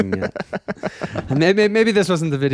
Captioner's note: laughing